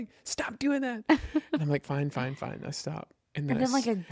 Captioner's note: laughs